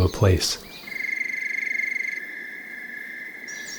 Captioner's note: crickets chirping